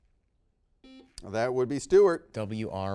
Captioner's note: buzzer beeps